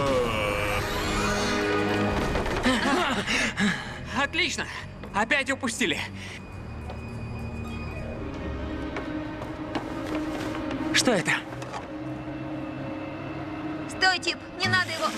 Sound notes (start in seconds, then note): 6.0 breathing heavily